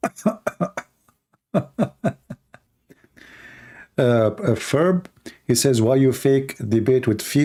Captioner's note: Ketawa